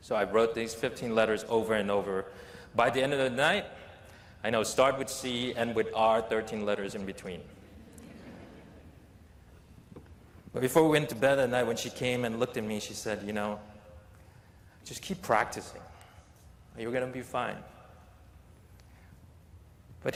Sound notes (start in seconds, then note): 7.7 laughter